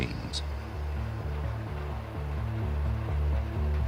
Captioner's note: machines operating